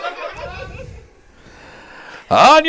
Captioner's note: laughs